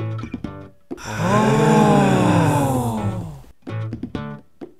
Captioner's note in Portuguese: pessoas admiradas em coro; música acústica de fundo